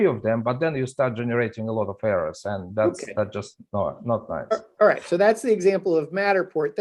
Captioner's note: scanning